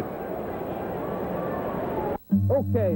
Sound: ambient ballpark noise

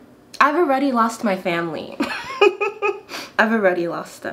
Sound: laughs

